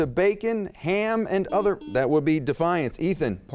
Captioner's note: beep